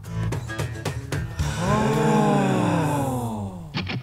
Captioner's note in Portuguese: pessoas admiradas em coro